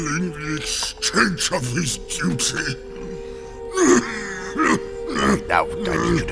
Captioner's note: heavy coughing